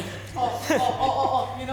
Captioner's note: audience groans/laughs